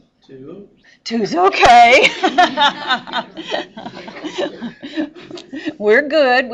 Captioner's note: laughing